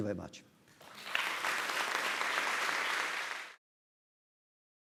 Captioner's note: applause